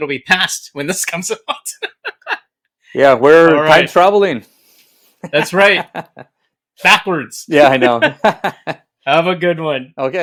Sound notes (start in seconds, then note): 1.6 laughs; 7.6 laughs